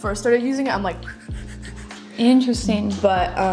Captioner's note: quick wooshing sounds